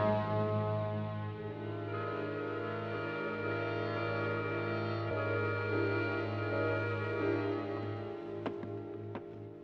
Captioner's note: door Opens